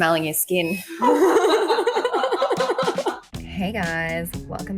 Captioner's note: girls laughing